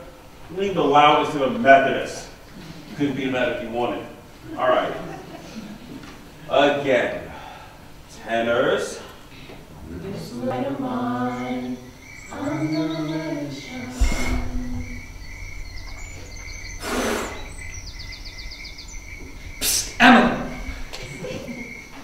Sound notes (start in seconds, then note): 9.9 singing; 14.4 crickets chirping